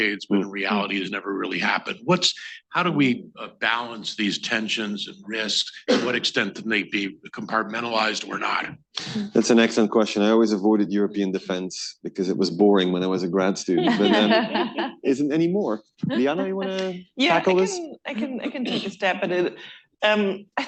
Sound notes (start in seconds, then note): 13.7 laughter